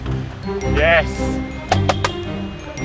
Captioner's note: toot toot toot